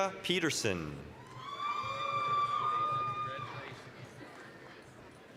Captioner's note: applause, cheering